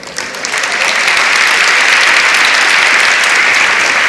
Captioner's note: audience applauds